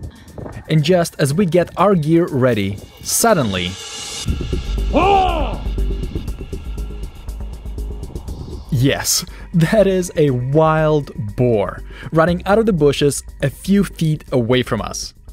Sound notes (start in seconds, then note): 4.9 exclaims